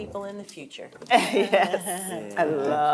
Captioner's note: chuckling